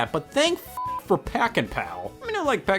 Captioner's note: beep